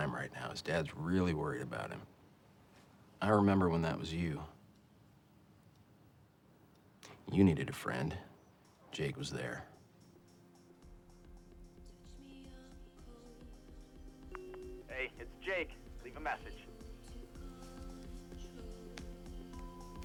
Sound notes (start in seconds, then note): 14.7 on voice mail